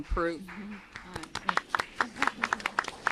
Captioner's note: applause